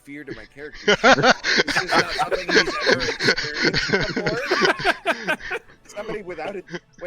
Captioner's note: DM Laughs; group laughter